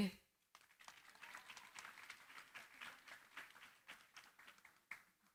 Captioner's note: applause